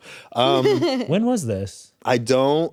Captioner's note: chuckles